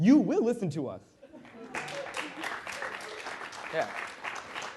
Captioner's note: applause